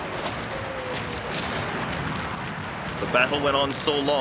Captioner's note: cannons firing